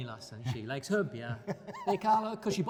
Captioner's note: laughing